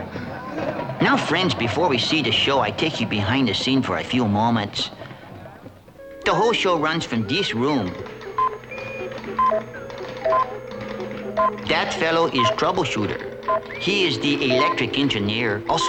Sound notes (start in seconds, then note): 7.8 computers beeping